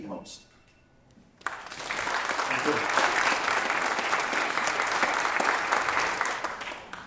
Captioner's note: applause